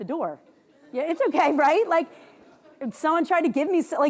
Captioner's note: audience chuckles